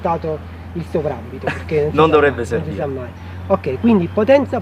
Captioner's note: laughs